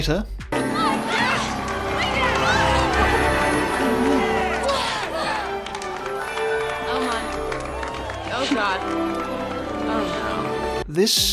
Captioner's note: cheering